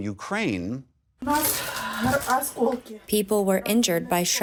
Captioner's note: through translator